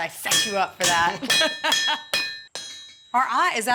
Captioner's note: laughing